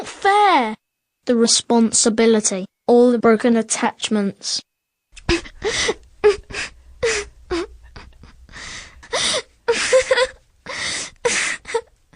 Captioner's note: cry